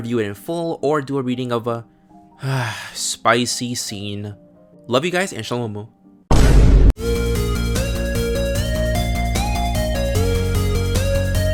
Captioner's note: sigh